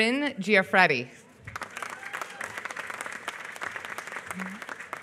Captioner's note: applause